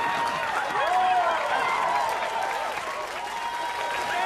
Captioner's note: crowd cheering